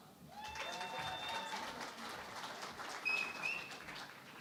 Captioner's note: cheering and Applause